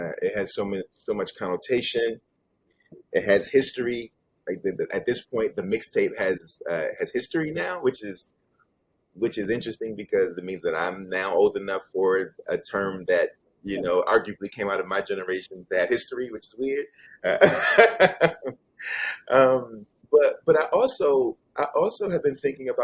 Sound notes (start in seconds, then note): 17.2 laughs